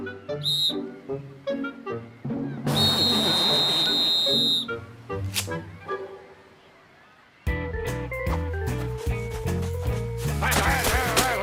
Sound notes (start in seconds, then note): 0.4 whistle blows; 2.6 whistle blowing